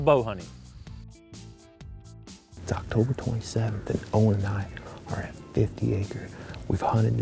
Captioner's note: whispering